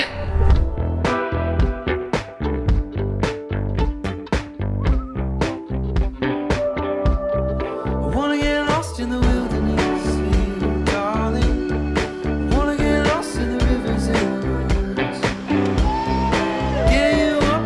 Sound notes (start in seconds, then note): 0.8 mellow pop music; 4.6 bird calling